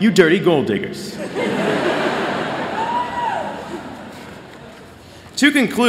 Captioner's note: laughter